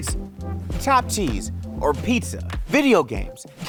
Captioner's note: graphics whooshing